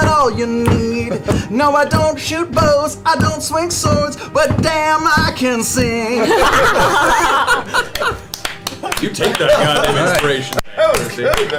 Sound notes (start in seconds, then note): 6.2 all cheer